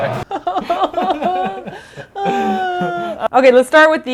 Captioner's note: fake crying